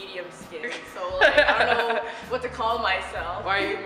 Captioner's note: laughter